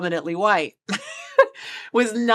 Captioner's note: chuckles